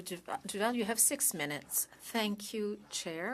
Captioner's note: speaking French